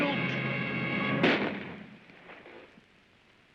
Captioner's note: gunshot